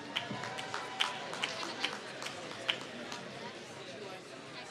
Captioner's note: applause